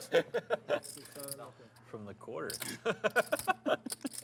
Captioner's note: table laughs